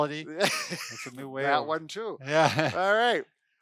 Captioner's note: laughs